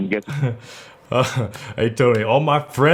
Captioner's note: laughing